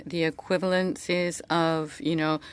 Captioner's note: speaking French